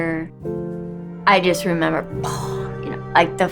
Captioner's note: sighs